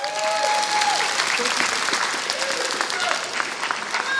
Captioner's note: applause